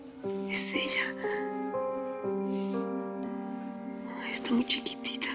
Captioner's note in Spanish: Sollozos